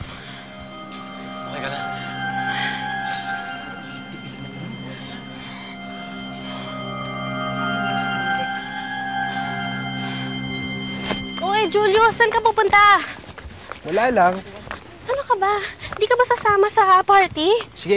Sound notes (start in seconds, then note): 3.7 people murmuring